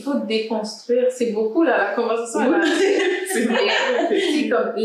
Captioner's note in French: rires